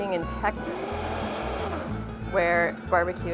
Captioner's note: blender whirling and blending